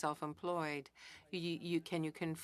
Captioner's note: speaking in French